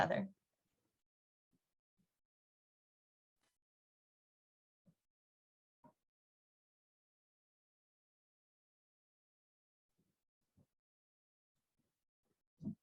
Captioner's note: silence